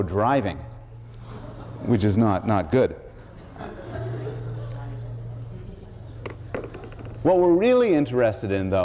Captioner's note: laughter